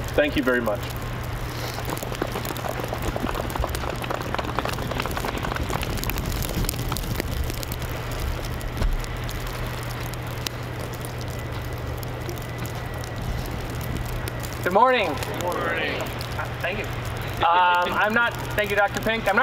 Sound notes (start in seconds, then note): 2.0 muffled applause; 17.0 audience chuckling